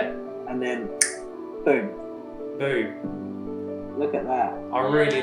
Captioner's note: snaps